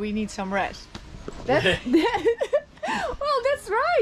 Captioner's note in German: lacht